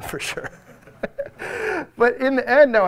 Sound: audience laugh

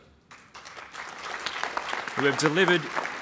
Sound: applause

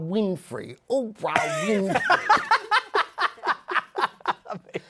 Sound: laughter

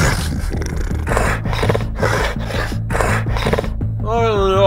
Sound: hungry wolf noise; wolf noise

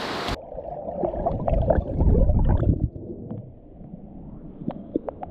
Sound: under water sound effect

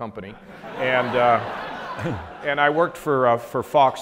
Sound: audience laughs

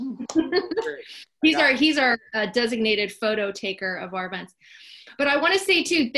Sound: laugh

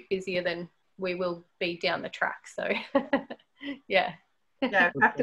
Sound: laughs

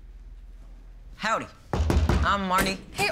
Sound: knocking

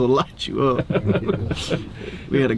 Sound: laughing

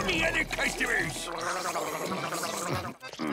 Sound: slurping loudly

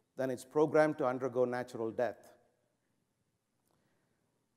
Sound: none

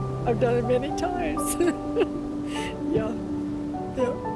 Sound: soft piano music; choking up

